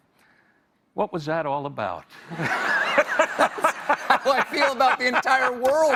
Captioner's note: laughter